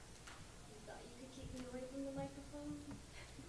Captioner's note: voiceover